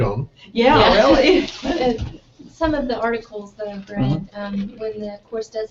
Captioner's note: laugh